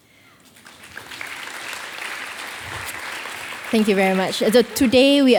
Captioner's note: audience applauding